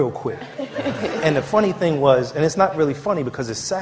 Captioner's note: laughter